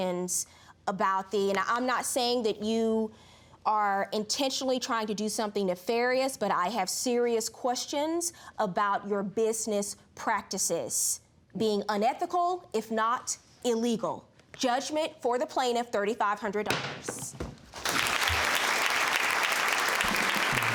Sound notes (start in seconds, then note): 17.8 audience claps